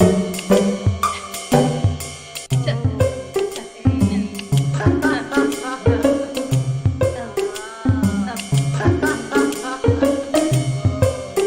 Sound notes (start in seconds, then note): 4.7 laughs; 8.8 upbeat music